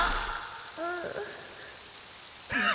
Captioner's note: groan